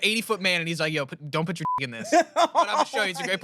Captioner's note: beep